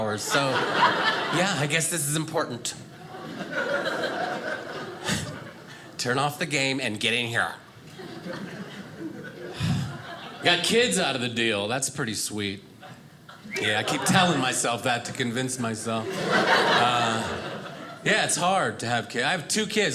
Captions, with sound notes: so yeah, I guess this is important. Turn off the game and get in here. I got kids out of the deal, that's pretty sweet. Yeah. I keep telling myself that to convince myself. (audience laughing) Yeah, it's hard to have kids. I have two kids.